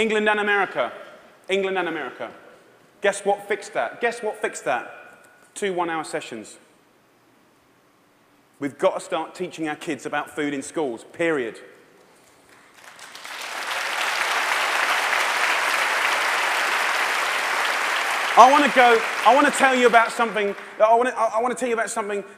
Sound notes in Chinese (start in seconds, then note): 12.5 掌聲